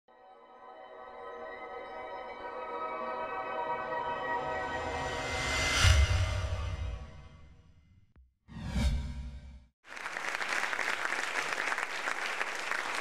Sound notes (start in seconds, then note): 0.1 serene music; 9.8 applause